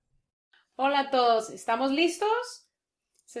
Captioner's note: in Spanish